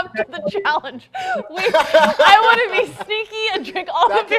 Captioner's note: laughing